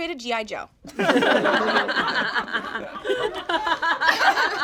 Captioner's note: all laugh